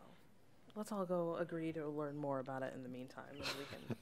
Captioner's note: chuckles